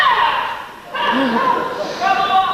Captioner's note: excited laughs